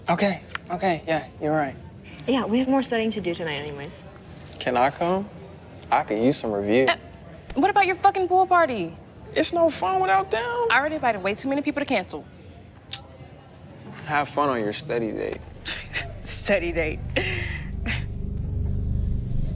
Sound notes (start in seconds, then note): 17.1 chuckles